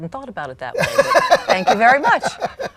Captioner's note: laughs